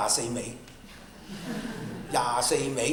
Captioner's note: laughter